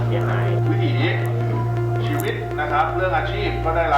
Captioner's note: speaking thai